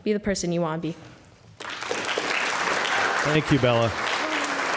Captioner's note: applause